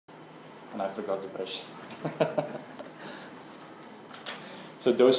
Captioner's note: laugh